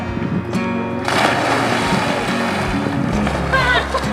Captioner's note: big splash